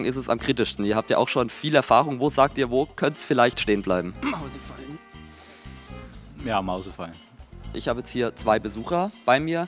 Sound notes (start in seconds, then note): 4.1 cough